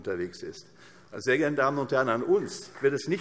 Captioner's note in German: Beifall